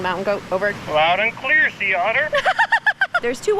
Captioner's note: laughs